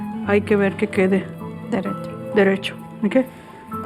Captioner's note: speaking spanish